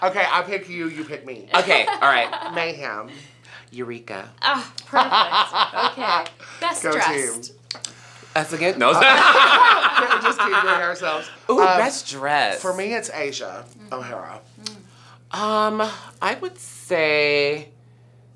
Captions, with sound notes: - Okay, I pick you, you pick me. - Okay, all right. - Mayhem. - Eureka. - Ah, perfect. (laughs) - Go team. - Best dressed. - Us again? (all laugh) - Can't we just keep doing ourselves? - Ooh, best dressed. - For me it's Asia O'Hara. - Um, I would say...